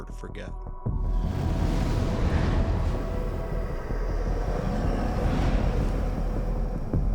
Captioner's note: tense music; air whooshing